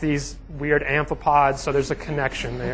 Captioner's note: congregation laughing